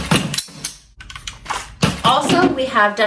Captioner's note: gun being loaded